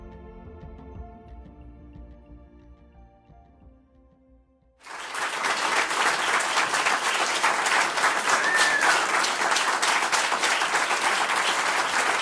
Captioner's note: applause